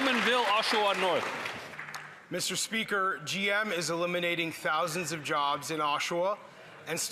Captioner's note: some Applause